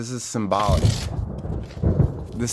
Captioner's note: heroically tears paper in half as thunder rumbles in the background